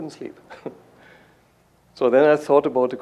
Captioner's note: chuckles